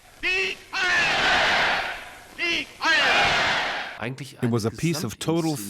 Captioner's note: crowd